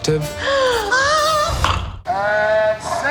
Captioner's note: gasps